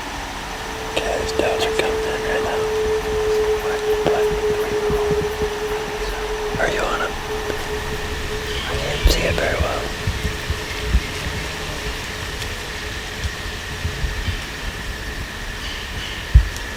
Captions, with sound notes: (Whispers) Kaleb, those Does are coming in right now. (Indistinct chatter)